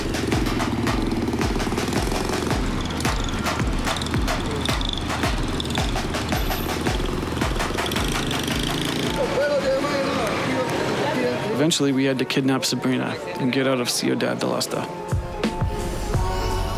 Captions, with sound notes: (Upbeat Music) (Gunfire) Eventually, we had to kidnap Sabrina